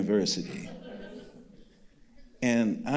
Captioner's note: audience laughing